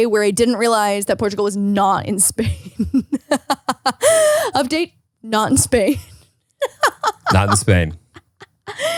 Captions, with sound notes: where I didn't realize that Portugal was not in Spain. (laughs) Update, not in Spain. (laughs) - Not in Spain.